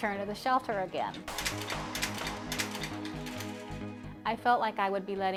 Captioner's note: gate lock clicking